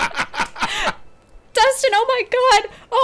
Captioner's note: laughing